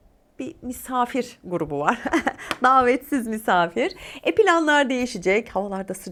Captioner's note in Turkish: kahkaha